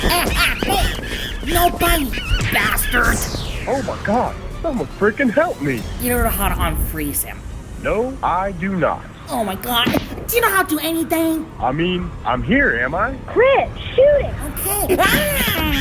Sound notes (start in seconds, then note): 2.9 laser shoots